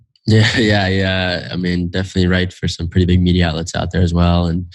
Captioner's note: laughs